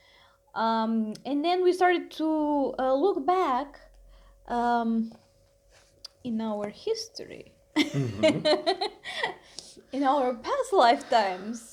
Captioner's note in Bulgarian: Смях